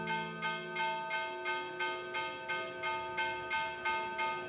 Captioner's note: bell clangs